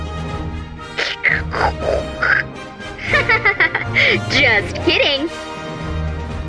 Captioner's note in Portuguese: Barulhinhos de rádio com a boca